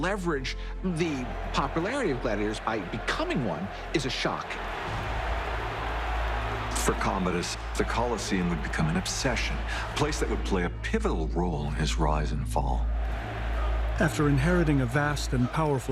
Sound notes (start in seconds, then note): 4.1 cheering